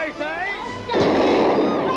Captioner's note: gun fires